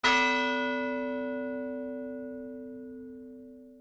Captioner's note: bell tolls